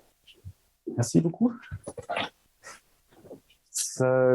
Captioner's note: speaks in foreign language